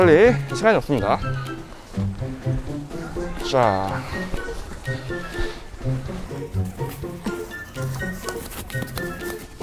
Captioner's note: bed pad grinding